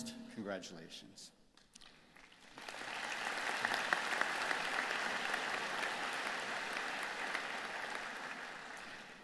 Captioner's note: applause